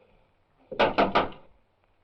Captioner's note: knocking on door